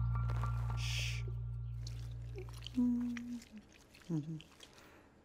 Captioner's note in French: fredonnement